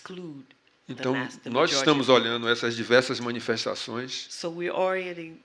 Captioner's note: speaking portuguese